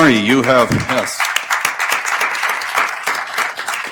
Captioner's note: applauding